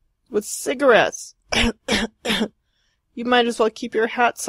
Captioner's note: cough, cough, cough!